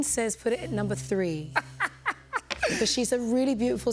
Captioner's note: laughs